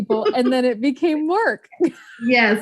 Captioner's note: laughs